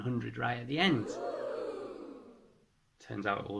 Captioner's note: crowd oooh